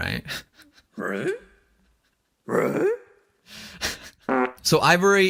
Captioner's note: laughs